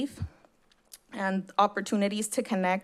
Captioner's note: smacks lips